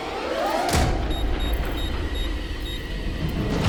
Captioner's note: beeping